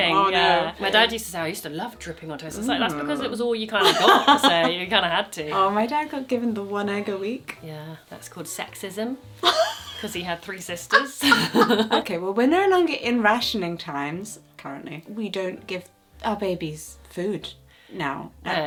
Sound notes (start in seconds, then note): 10.9 laughing